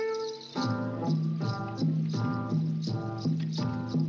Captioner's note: bracelets Jingling